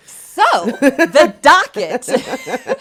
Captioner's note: both laugh